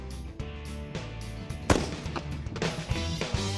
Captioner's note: gun fires